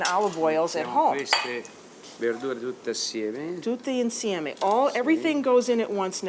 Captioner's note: speaking Italian